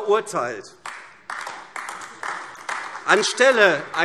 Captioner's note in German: Beifall AfD